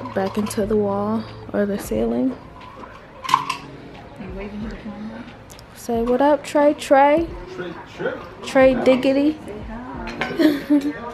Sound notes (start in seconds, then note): 4.9 murmurs; 10.3 chuckles